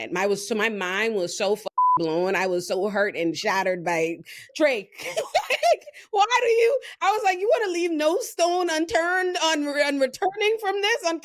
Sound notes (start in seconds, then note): 5.0 laughs